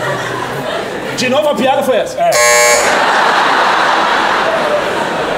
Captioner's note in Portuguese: campainha